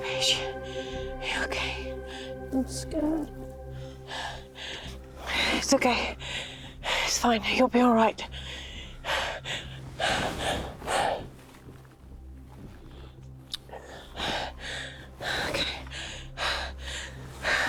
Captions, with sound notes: Paige, are you okay? - I'm scared. - It's okay. It's fine. You'll be all right. (panting) Okay.